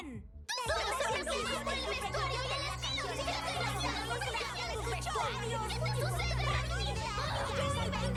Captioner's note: all shouting at once